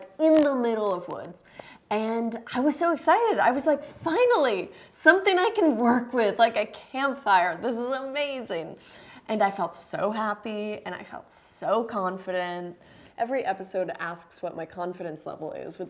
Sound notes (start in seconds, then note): none